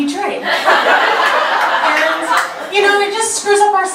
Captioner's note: audience laughter